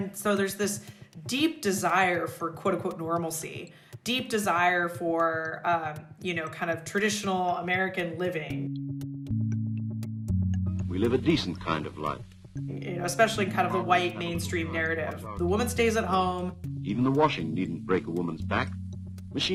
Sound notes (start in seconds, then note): 10.8 soundbite of archived recording